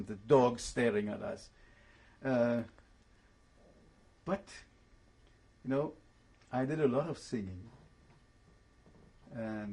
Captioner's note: pauses for 3 seconds